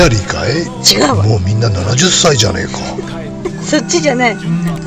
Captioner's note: laughs